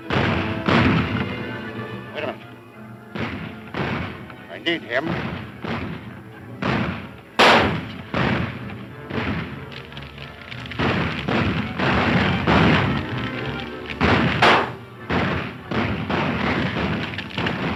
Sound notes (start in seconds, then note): 7.5 firing guns; 9.9 flames crackling